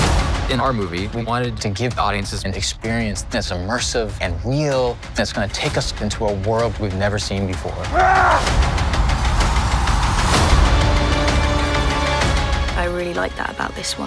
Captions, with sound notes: WES BALL In our movie, we wanted to give audiences an experience that's immersive and real, that's going to take us into a world we’ve never seen before. NOA [Yells] I really like that about this one.